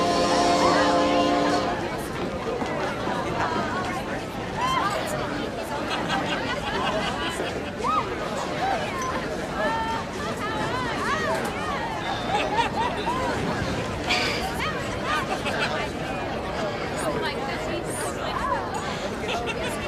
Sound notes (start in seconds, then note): 5.8 indistinct chattering